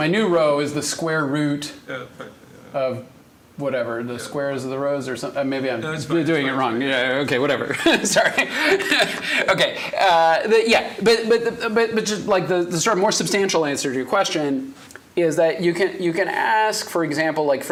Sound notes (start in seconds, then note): 9.5 laughs